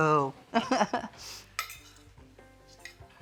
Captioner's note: laughing